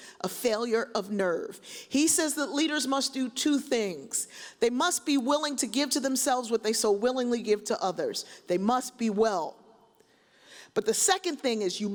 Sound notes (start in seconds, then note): none